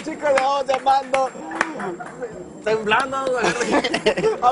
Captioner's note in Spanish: risas